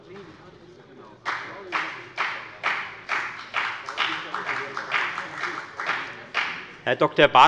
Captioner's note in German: Beifall bei der FDP